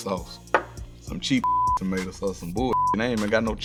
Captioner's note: beep